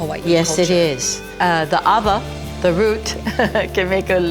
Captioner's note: speaking in foreign language